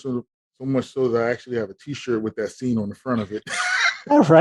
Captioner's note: laughing